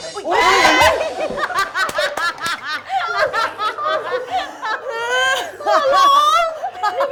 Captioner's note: everyone's yelling